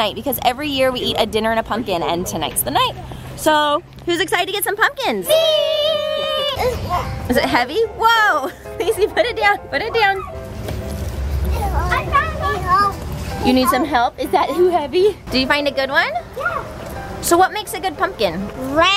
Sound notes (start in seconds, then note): 6.5 grunts